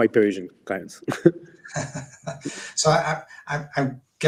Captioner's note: both laugh